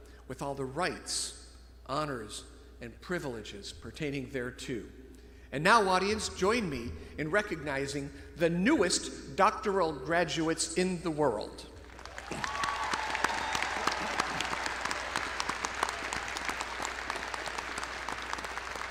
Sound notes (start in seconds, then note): 11.8 all clapping; 11.9 audience cheering